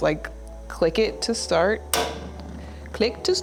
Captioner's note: knob clicks